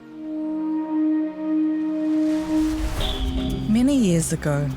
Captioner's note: monotone music; waves rushing